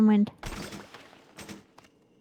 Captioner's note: gunshot